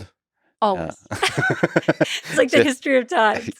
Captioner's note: both laughing